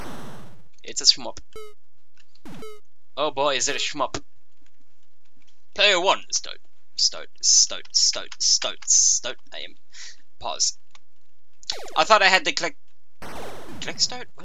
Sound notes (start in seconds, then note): 1.3 weak ass laser sound